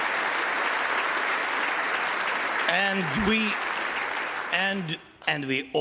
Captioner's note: applause